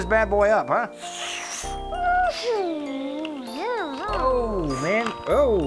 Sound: driving noises

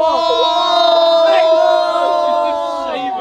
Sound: everyone yelling

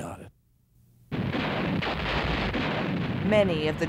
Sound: gunfire

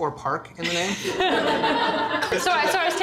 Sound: audience laughter

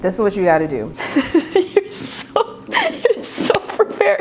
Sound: laughing

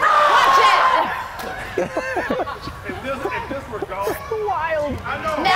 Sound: laugh

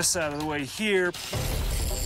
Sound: whirring

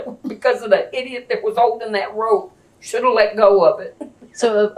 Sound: laughs

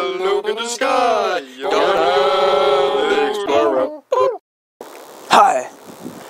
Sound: boop

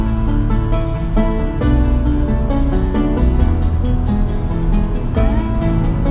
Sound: drone

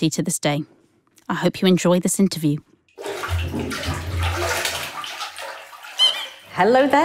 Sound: sound of a rubber duck squeaking

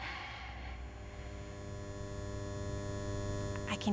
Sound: buzzing

